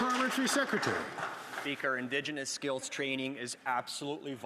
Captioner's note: some Applause